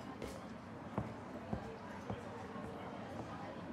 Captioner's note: footsteps plodding